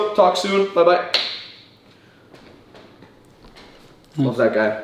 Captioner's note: claps hands